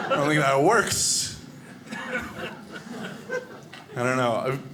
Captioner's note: audience laughing